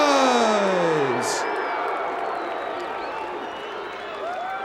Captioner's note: audience cheers